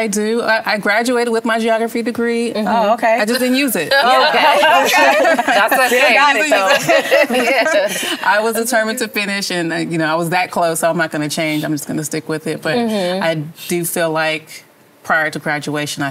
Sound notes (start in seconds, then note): 4.4 laughter